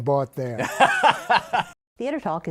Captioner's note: laughs